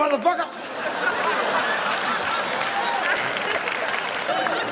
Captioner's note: audience laughs